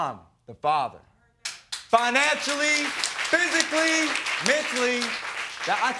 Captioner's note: crowd clapping